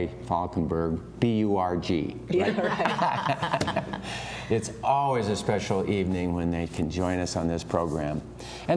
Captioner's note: laughter